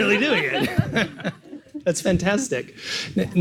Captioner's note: laughs